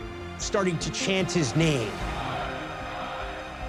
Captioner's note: chanting continues